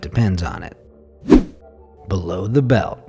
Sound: air whooshing

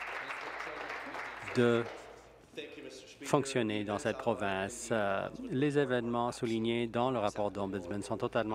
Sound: applause

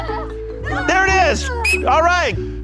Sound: whistle

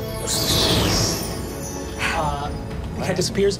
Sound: whooshing

